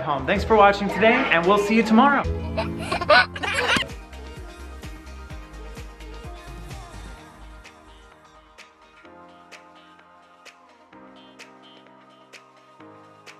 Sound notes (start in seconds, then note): 2.4 giggles; 4.0 upbeat music